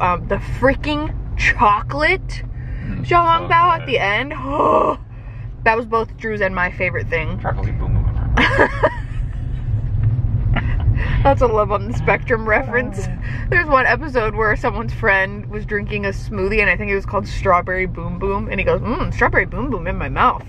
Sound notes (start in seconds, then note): 8.6 laughs